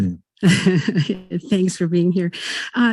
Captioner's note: woman laughs